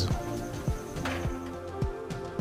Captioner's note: door opening